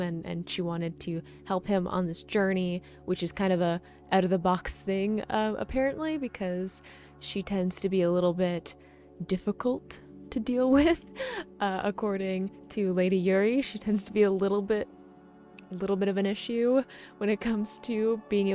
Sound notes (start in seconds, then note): 10.8 chuckles